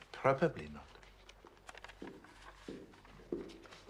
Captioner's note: Langkah kaki